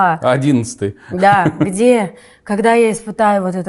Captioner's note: laughs